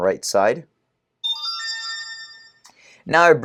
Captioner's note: chime